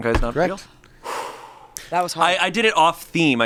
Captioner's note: sighs